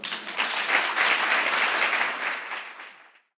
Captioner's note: audience applauding